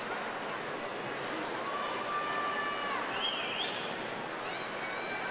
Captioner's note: people yelling